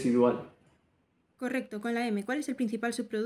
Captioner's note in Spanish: Voz en off